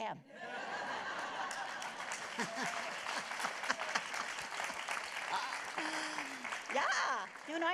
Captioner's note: laughter; applause